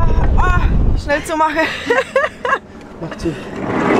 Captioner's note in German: Lachen